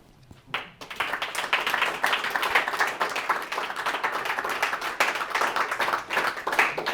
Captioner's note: audience applauds